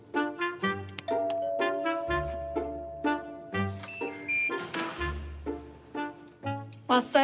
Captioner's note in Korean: 초인종 소리